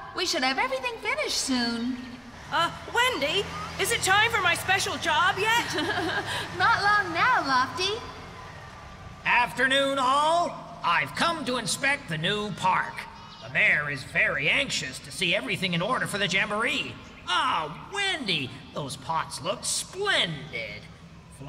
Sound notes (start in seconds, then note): 5.4 chuckling